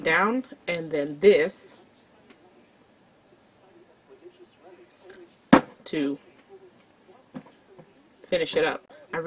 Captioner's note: bottle thuds on desk